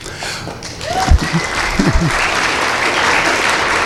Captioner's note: applause